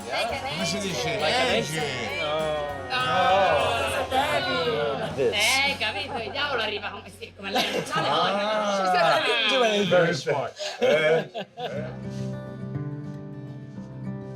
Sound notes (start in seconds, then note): 5.4 speaking Italian